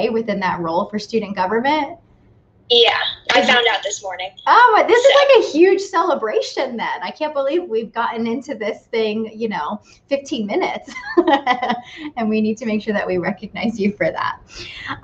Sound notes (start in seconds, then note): 10.8 laughs